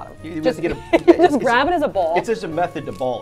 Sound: laughs

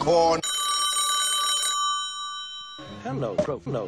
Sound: phone rings

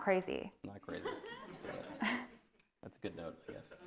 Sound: audience laughing

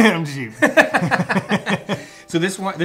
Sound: both laughing

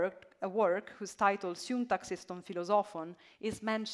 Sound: speaking ancient Greek

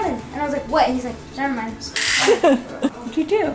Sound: laughing

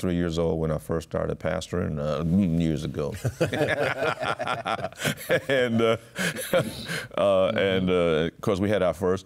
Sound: laughter

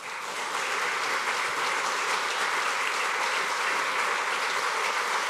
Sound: applause

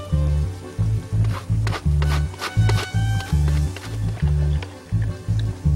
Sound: gentle whimsical music; grater rattling; gentle whimsical music continues

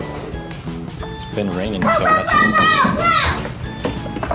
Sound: pow! Pow! Pow! Pow!

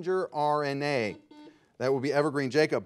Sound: buzzer beeping

